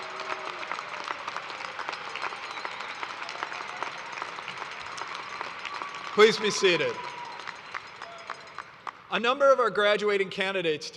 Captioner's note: cheers and applause